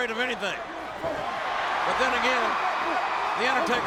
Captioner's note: applause